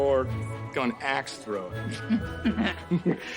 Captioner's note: laughs